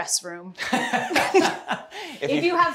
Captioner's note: laughter